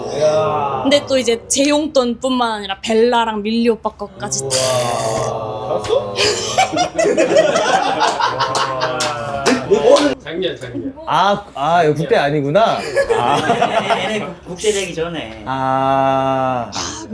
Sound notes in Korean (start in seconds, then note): 6.1 웃음; 12.7 웃음